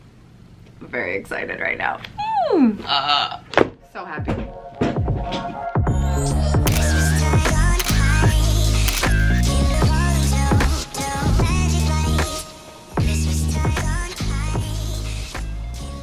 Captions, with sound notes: I'm very excited right now. (squeals) I'm so happy. (upbeat music) (camera shutter clicks)